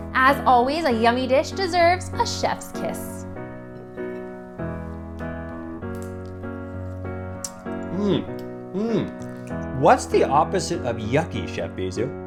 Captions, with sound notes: As always, a yummy dish deserves a chef's kiss. [chef's kiss sound] - Mmm, mmm. What's the opposite of yucky, Chef Bisous?